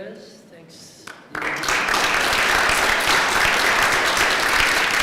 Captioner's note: applause